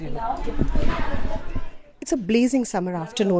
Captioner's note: speaking Gujarati